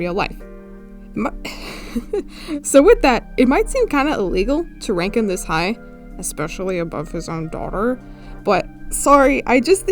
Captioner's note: laughs